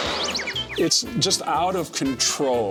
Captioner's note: explosion